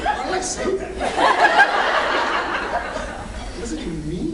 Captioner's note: laughs